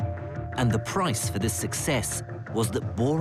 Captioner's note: voiceover